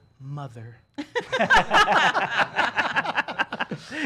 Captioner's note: laughing